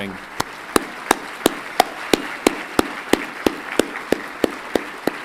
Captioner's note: everyone clapping